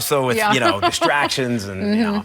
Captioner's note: laughing